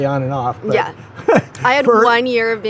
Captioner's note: laughs